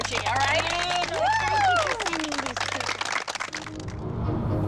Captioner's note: cheering